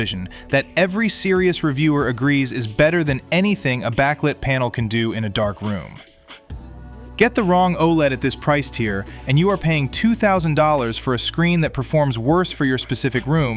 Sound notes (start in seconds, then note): 6.5 thoughtful